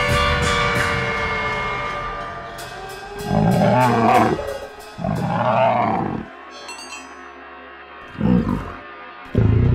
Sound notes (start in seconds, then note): 3.4 creature growling